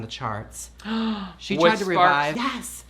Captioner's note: gasps